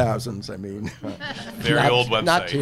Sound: all laughing

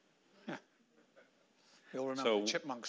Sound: laughing

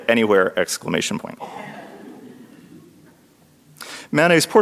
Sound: audience laughs

